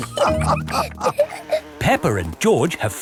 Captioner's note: all laughing